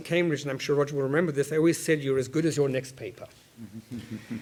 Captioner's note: laugh